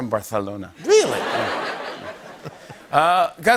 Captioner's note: laughter